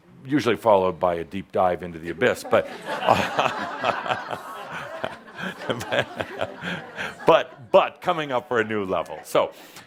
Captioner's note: laughter